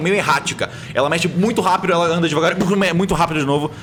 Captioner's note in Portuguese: Pow